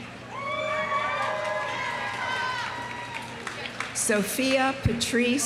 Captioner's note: audience cheering; audience applauding